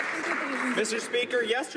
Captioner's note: some Applause